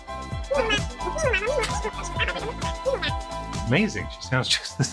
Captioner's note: animalese sound